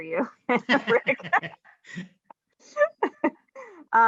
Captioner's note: laughing